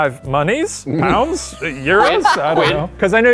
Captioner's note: laughing